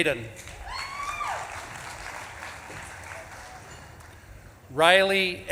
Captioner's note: audience claps and cheers